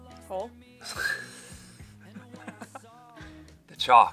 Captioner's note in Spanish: riendo